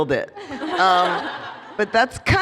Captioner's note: laughter